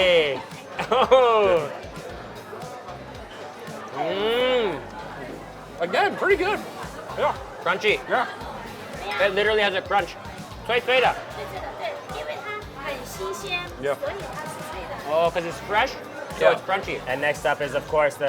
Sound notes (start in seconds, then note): 0.7 laughs; 4.0 moans; 10.2 speaks in a foreign language; 11.2 woman speaks in a foreign language